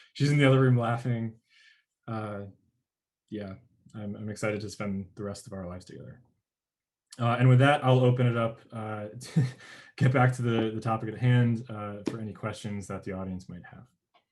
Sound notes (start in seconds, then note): 9.3 chuckles